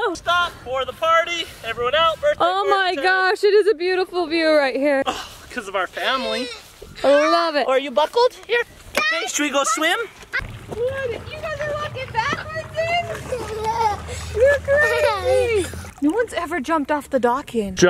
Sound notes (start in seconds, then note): 5.0 sighs; 10.8 kids giggling